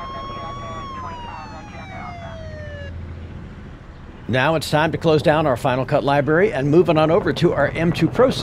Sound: police sounds

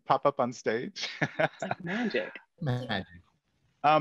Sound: laughs

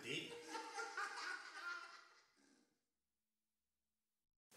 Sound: people laughing

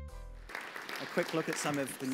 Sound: audience applause

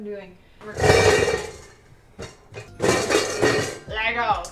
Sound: mixer clangs

